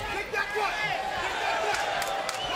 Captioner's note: crowd shouting; clapping